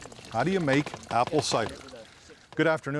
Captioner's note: liquid sputtering